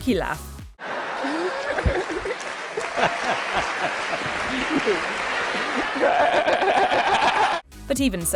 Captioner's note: laughing